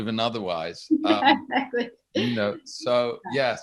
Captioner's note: chuckles